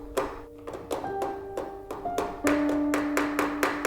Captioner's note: Ovilus knocking; spooky music